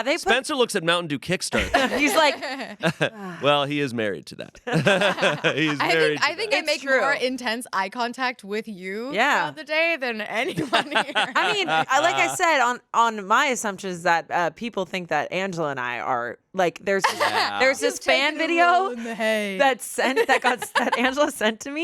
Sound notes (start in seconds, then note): 4.7 everyone laughs; 10.5 everyone laughs; 17.0 laughs